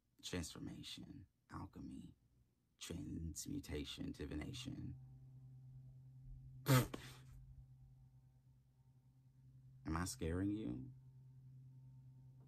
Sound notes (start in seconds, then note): 6.9 laughs